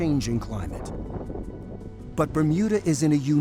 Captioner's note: wind howling